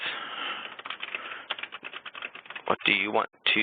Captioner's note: typing